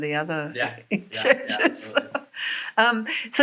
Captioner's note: laughs